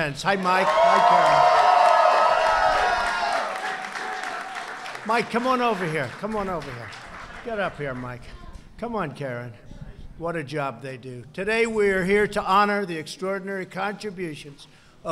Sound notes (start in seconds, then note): 0.3 applause